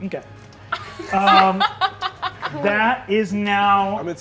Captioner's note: laughing